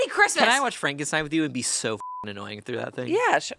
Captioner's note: beep